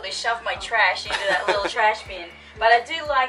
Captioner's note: laughter